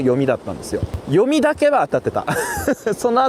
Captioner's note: laughs